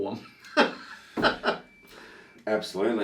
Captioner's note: laughs